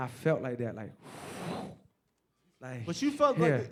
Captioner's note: sighs